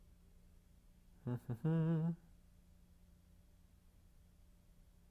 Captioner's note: instructor hums